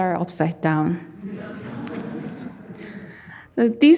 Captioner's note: audience laughing